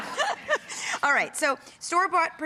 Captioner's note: laughing